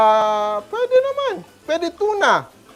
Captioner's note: sizzles